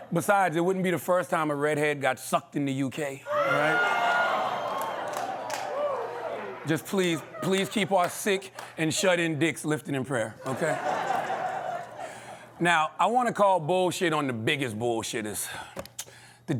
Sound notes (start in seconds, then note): 3.3 audience reacts